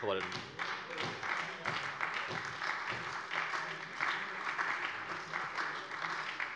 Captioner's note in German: Beifall bei der SPD